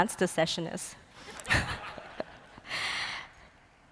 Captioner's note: laughter